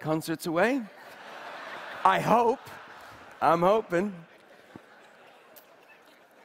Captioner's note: Laughter; 笑聲